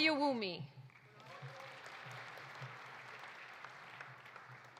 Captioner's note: audience applauding